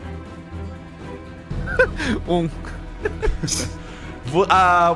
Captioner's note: laughing; laughs